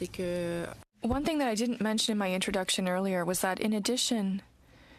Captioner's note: speaking french